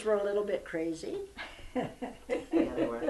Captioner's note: laughter